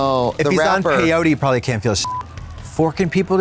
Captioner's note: beep